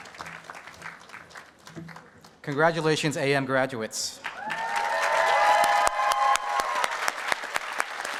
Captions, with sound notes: Congratulations AM graduates. [APPLAUSE AND CHEERING]